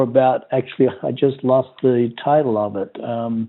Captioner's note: chuckles